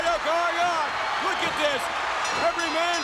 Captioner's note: bell rings